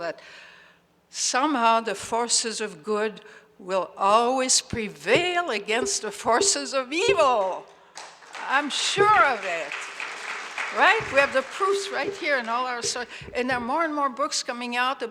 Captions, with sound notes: that somehow the forces of good will always prevail against the forces of evil. (audience applauds) I'm sure of it, right? We have the proof right here in all our sight and then more and more books coming out